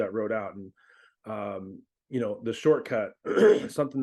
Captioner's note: clears throat